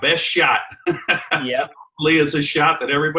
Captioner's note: laughs